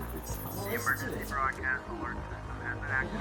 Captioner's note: robotic beeps heard softly in background; radio broadcasting